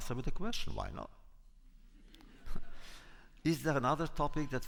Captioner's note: laughter